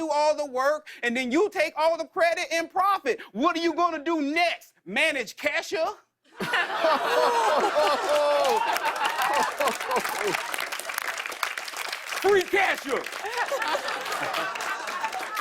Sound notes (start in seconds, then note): 6.7 audience oohs; 13.2 laughter